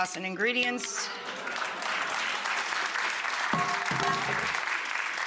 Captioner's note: audience applause